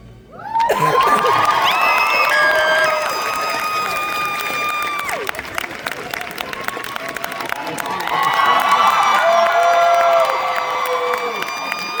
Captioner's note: applause